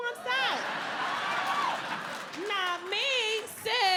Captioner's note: audience laughing